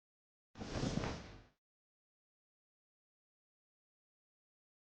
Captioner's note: whoosh